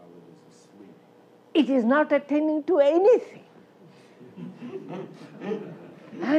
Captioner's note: laughter